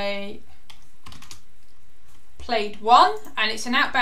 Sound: keyboard clicking

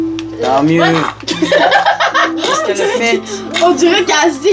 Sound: laugh

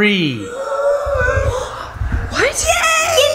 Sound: everyone gasping

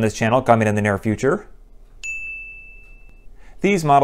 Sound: chime

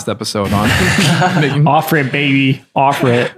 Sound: laughter

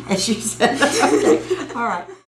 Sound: laughter

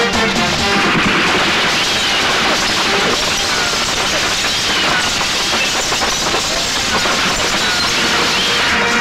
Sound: rapid gunfire; glass shatters

